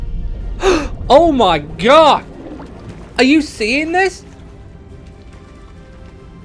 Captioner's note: gasp